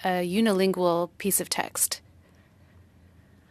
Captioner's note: speaking French